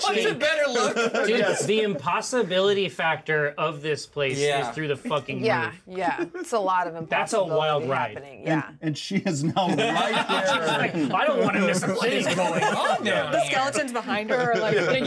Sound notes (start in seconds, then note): 0.4 laughs; 6.0 speaker laughs; 9.3 laughs